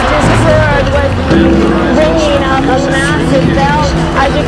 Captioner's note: First bell in Seoul, South & North Korea